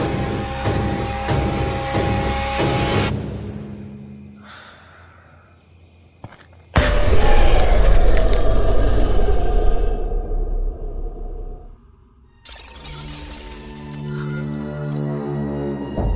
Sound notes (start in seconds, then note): 7.1 croaking; 12.5 suspenseful horror music